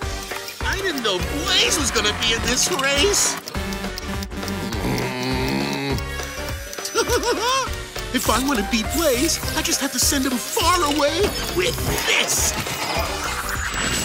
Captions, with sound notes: I didn't know Blaze was going to be in this race. [groaning] [laughing] If I want to beat Blaze, I just have to send him far away with this...